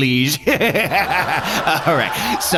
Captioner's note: laughs